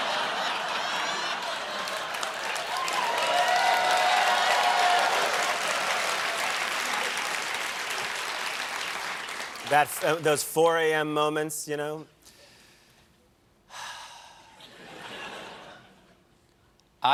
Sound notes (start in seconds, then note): 0.0 applause; 0.0 laughter; 0.0 cheers; 13.7 sighs